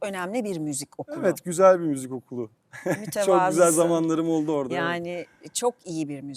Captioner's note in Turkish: kahkaha